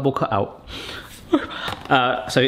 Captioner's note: sighs